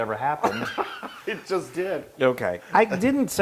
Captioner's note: laugh